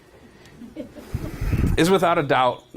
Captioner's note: audience member chuckling